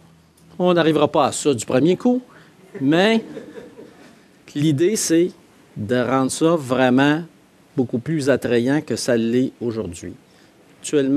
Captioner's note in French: rires